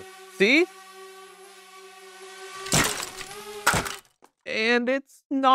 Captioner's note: drone whirring and crashing